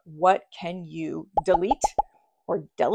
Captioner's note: graphics popping